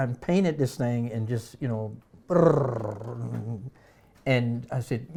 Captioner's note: imitates rumbling